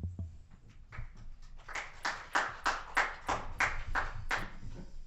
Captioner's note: applause